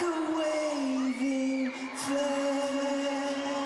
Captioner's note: cheering